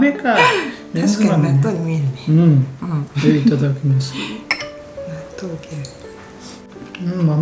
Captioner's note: haha